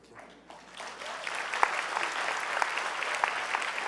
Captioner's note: clapping